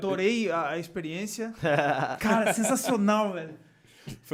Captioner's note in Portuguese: risos